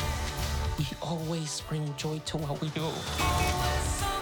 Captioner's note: horn honks